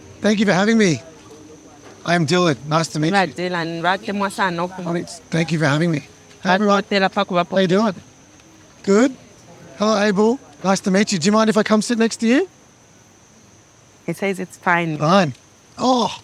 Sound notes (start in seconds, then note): 3.4 interpretor speaking in foreign language